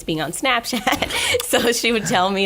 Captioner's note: laughing